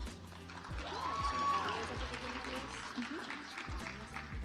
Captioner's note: audience applauds